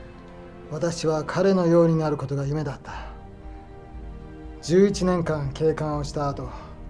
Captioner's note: Toshio speaking in foreign language